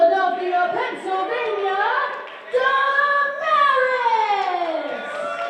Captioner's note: crowd cheering